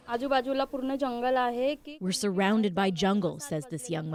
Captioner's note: speaking Foreign Language